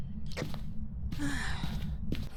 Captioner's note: sighing